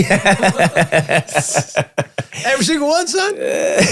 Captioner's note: all laugh